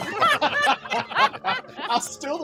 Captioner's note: group laughs